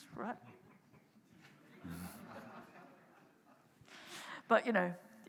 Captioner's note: audience chuckling